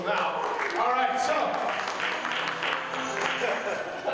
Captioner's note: audience applauds